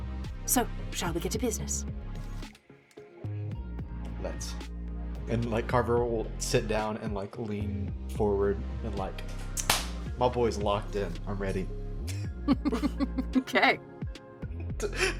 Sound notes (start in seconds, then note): 9.6 claps